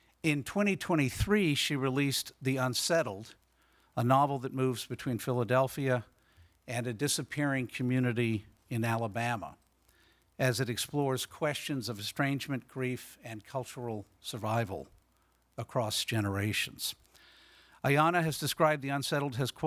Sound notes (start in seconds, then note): none